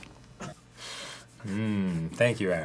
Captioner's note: sniffing the aromatics